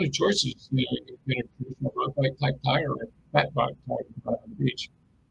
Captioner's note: distortion muffles speaker